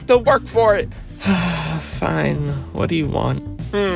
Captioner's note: sigh